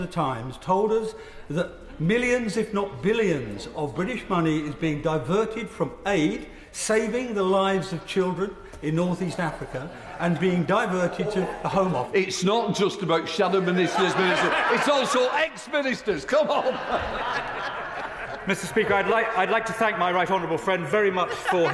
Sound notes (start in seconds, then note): 16.3 laughter